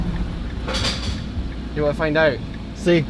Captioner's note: metal clinking